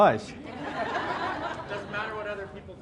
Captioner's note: audience laughs